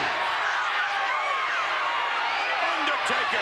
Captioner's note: crowd cheering